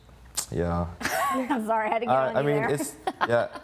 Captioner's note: laughs